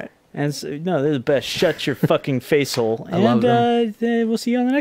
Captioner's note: chuckles